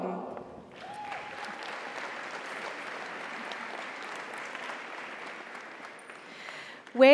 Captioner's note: audience cheers; audience applauds